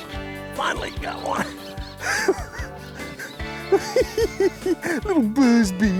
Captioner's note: giggling